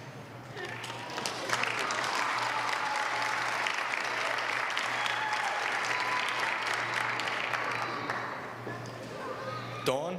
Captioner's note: applause